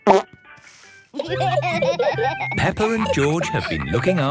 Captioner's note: laughter